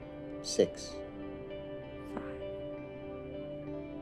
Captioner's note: quietly